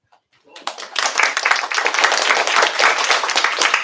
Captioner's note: applause